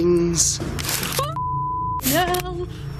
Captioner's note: beep